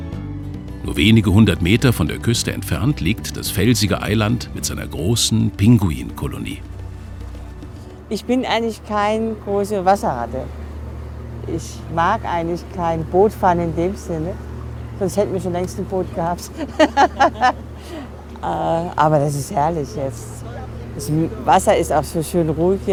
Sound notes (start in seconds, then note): 16.0 laughs